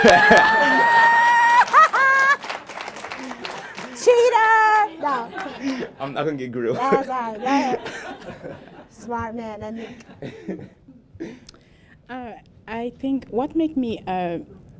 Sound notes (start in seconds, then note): 1.5 laughter; 2.9 applause